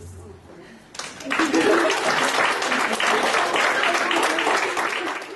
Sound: applause

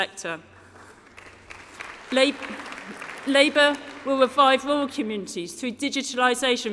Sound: applause

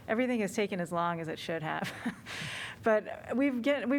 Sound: laughter

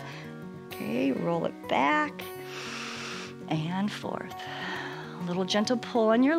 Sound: exhales

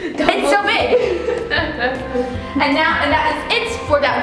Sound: laughing

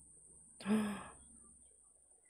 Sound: gasps

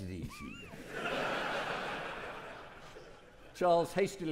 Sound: audience laughing

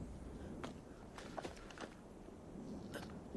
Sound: footsteps

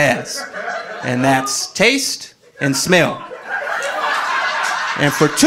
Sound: audience laughing

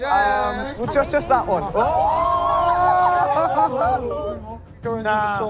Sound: and contestants yelling

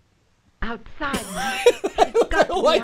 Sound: laughs

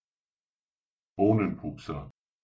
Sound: fast Pronunciation

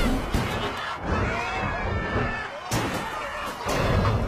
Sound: more screaming

